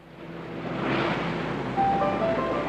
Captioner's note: traffic din